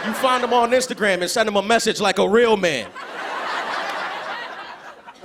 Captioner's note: laughter